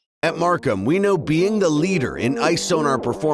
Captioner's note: voiceover